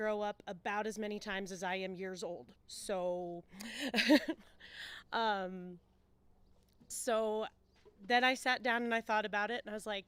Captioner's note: laughs